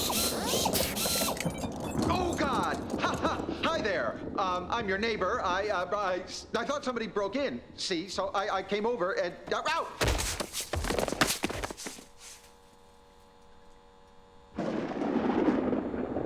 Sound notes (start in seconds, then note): 10.0 thud; 10.7 clatter; 12.3 buzzing